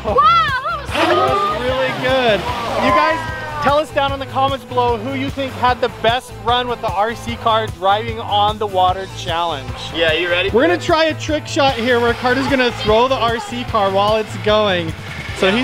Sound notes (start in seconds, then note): 0.8 engine revving